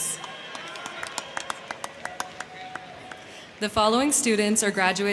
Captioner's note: crowd cheering; crowd clapping